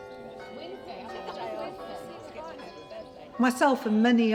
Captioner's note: indistinct chatter